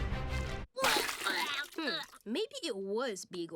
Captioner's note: gagging